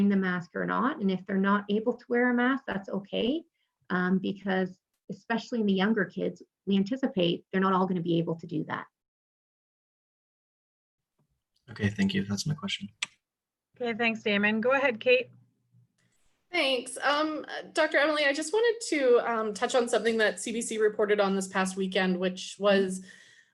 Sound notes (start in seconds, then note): 9.3 silence